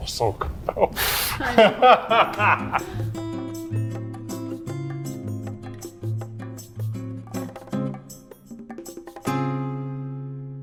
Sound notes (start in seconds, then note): 0.4 laughing; 3.2 light music